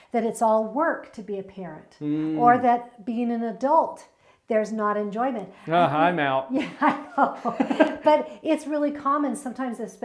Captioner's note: laughs